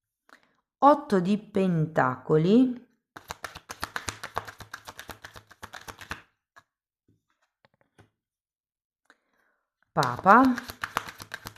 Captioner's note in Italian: Applauso